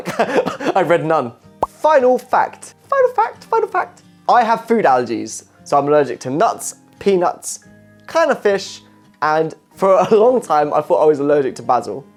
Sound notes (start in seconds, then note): 0.3 laughing; 2.9 high pitch voice